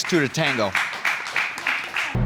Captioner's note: audience applauds